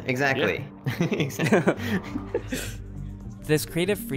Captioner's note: both laughing